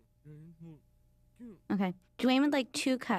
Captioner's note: whispering